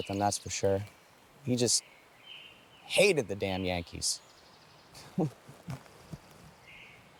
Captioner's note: chuckles